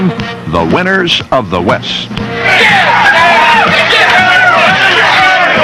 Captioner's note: men cheering, shouting